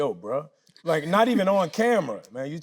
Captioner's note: Tyler laughing